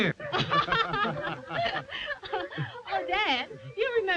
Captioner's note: all laughing